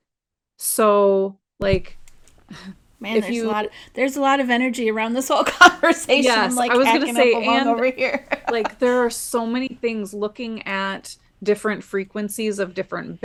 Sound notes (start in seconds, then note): 5.2 laughs